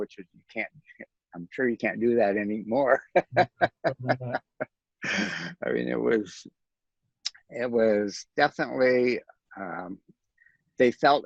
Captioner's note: laughs